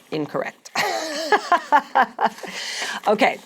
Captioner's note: laughs